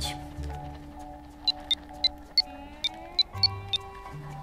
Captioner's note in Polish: dźwięk klikania